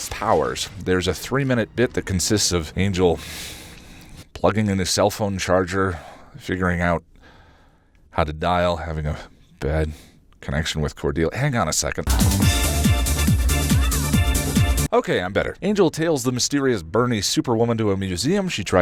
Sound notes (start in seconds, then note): 3.2 breathes through nose